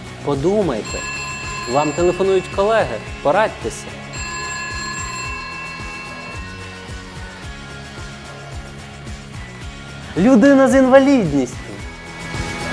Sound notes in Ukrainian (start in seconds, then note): 0.8 телефонний дзвінок